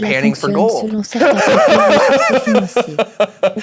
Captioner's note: laughing